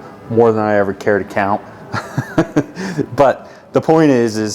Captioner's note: laughs